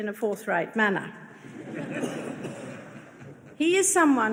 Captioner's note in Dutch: publiek lacht